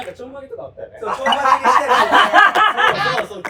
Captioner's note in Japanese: 爆笑する声